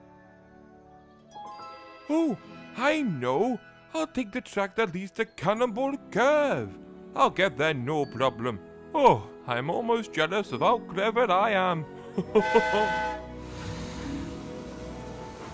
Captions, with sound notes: "Ooh. I'll take the track that leads to Cannonball Curve! I'll get there no problem! Oh, I'm almost jealous of how clever I am!" [FREDDIE CHUCKLES AND WHISTLES]